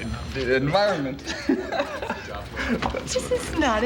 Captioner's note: laughs